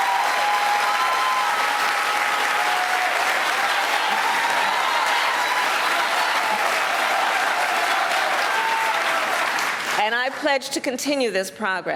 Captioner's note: cheers and applause